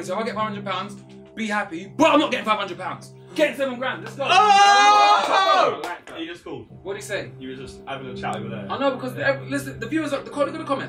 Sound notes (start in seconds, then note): 4.1 all cheering